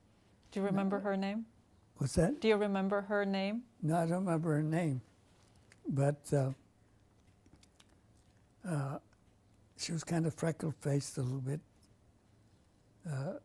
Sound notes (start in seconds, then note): 5.8 pauses for 3 seconds